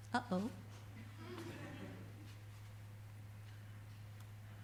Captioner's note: audience laughter